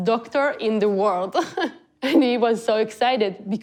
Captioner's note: chuckles